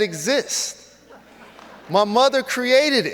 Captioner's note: audience laughs